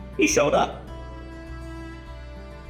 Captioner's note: man laughing